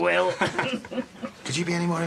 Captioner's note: Alex and Faith laugh